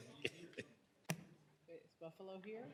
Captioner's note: laughter